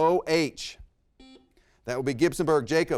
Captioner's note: buzzer rings